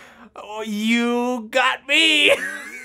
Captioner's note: laughs